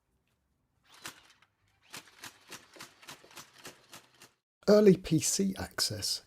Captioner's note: blam blam blam blam